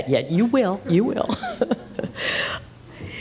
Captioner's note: laughter